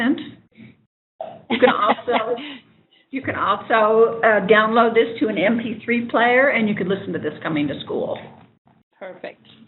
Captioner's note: laughing